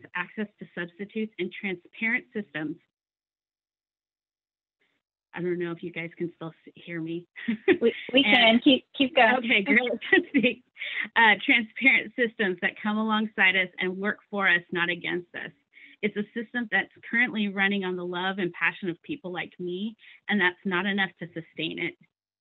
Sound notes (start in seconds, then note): 7.7 chuckling